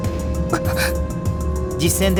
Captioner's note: gasp